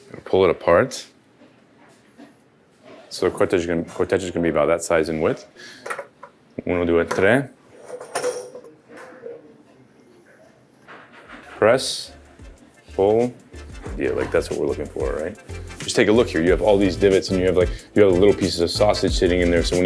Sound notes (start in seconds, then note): 6.9 speaks Italian; 12.6 gentle music